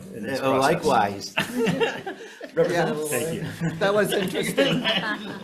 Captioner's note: Chair laughing